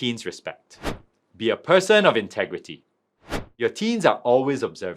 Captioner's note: screen wipe whooshes